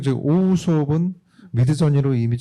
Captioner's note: speaking korean